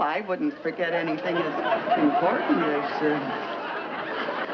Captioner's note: audience laughs